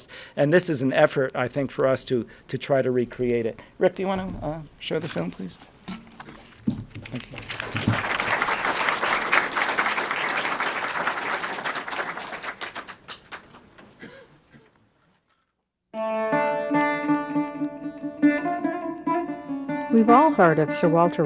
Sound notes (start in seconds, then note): 6.9 applause; 15.9 opening music